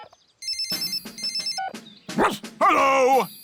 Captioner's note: phone rings; barks